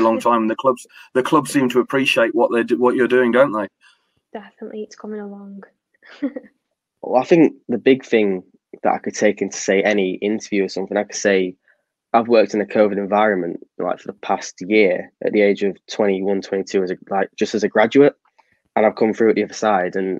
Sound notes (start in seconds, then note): 6.5 laughs